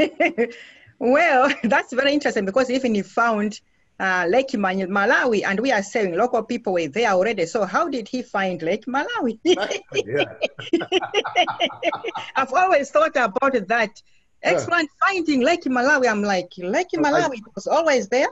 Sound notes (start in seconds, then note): 1.0 laughs